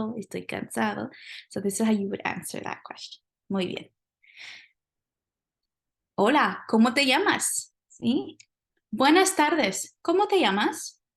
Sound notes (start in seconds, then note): 0.0 speaking spanish; 3.1 speaking spanish